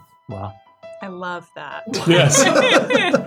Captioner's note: laugh